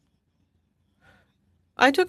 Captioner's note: speaking French